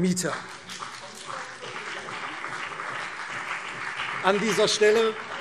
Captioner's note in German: Beifall CDU und BÜNDNIS 90/DIE GRÜNEN